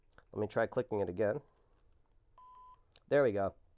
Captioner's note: beeping